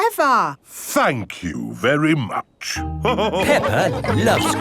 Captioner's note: all laughing